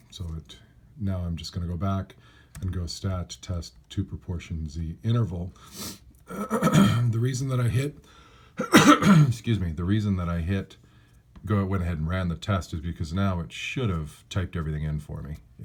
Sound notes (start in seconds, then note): 5.2 cough